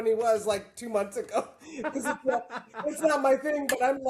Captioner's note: laughing